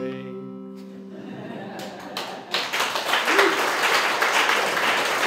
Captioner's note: laughter and applause